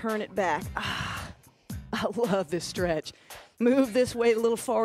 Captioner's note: sighs